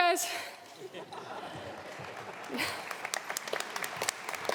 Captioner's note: audience laughing